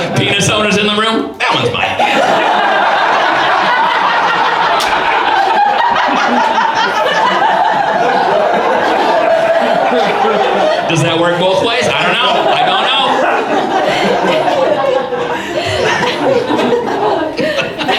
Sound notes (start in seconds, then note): 0.0 laughing; 2.4 audience laughs; 9.8 laughing; 12.0 audience laughs; 14.0 audience laughs